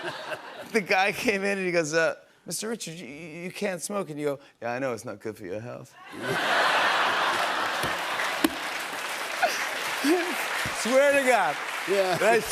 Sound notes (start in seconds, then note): 6.0 laughter; 8.5 applause